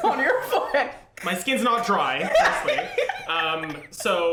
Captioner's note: laughs